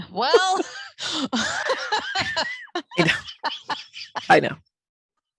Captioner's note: laughing